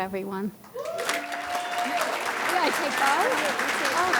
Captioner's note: audience hollers and claps